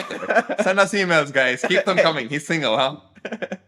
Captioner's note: laughter